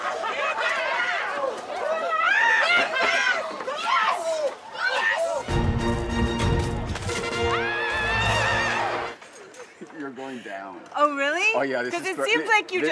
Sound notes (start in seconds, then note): 2.1 all cheering; 5.4 epic music